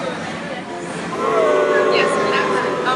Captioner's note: booing